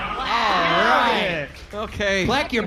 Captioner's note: audience applauds